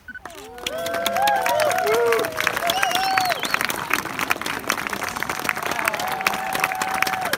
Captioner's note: clapping and cheering